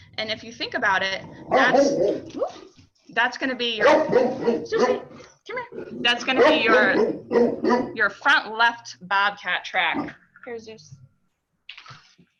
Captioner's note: dog barks in background